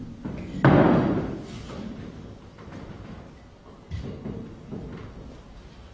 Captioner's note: microphone stand bangs